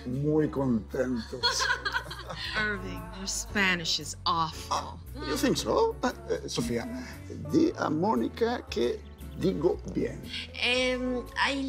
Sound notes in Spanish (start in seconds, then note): 1.1 Risas